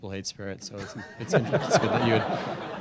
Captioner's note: audience laughing